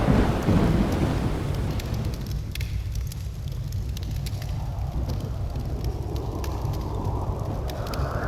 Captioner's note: raging fire and wind